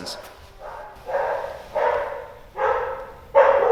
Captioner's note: dog barking